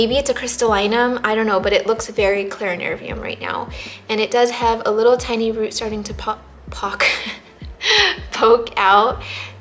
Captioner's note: laughs